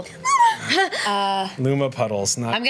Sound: gasping for air

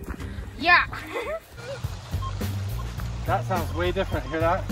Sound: chuckles

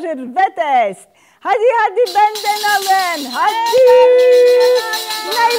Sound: shouting in Turkish

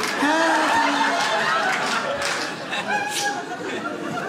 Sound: audience laughs

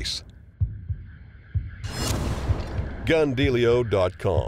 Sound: dramatic transition noises

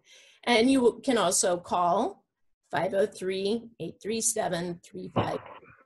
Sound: distorted sound

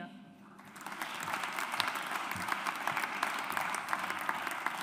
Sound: audience applauds

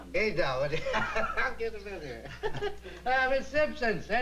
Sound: laughs

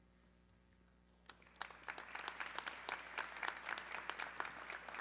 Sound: audience clapping

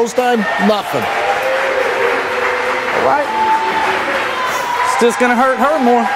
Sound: audience applause

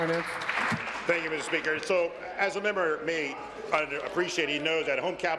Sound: applause

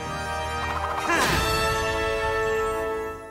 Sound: grunting

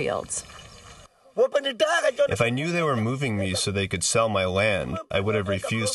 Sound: through translator

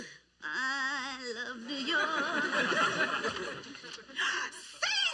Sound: sing-songy; gasps

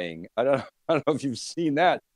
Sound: laughs

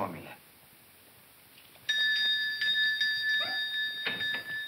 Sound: bell ringing

